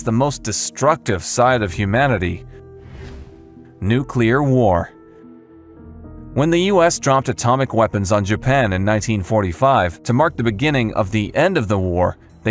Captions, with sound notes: the most destructive side of humanity: (air whooshes) nuclear war. When the US dropped atomic weapons on Japan in 1945 to mark the beginning of the end of the war,